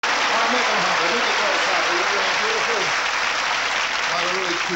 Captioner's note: audience loudly cheering